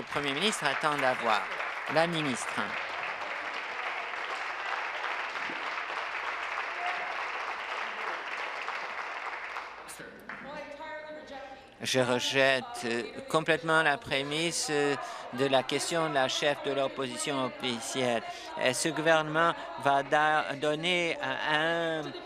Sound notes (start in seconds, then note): 2.7 applause